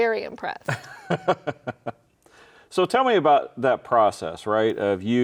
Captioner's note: laughs